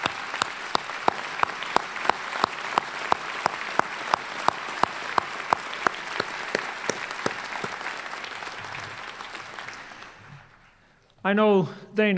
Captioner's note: applause